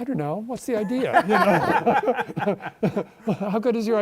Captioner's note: laughter